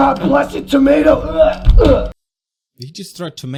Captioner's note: sound of douche throwing tomato at a wall